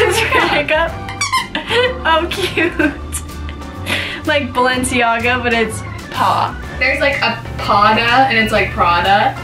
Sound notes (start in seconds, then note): 1.3 dog toy squeaks; 3.5 laughing